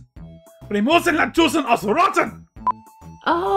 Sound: something angry in German

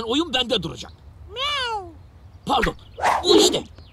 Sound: cat sound

